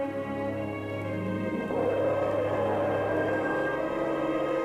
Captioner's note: roaring